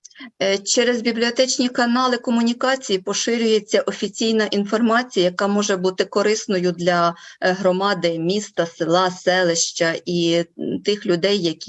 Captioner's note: foreign Language Spoken